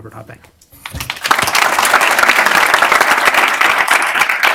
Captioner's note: applause